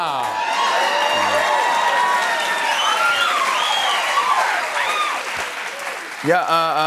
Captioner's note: cheers and applause